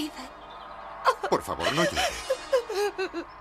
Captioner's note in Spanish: llora